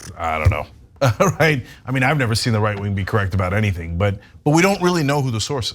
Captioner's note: laugh